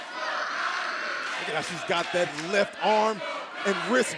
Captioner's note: fans chanting